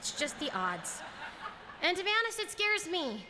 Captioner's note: laughter